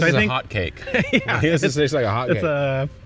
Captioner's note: laughing